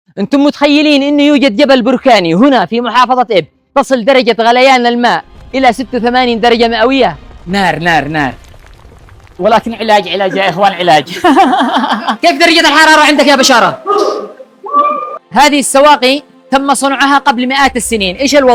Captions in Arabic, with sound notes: انتم متخيلين انه يوجد جبل بركاني هنا في محافظه اب تصل درجه غليان الماء الى 86 درجه مئويه نار نار نار ولكن علاج علاج يا اخوان علاج [ضحك] كيف درجه الحراره عندك يا بشار انظروا إلى ممرات المياه هذه؛ فقد بنيت قبل مئات السنين. ايش